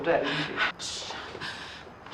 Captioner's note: shush